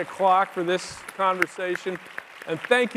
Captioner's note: audience applauding